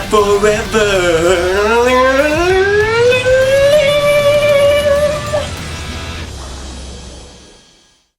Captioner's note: attempting to sing guitar riffs